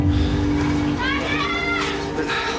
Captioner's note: woman screaming